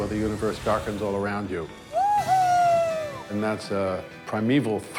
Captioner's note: cheers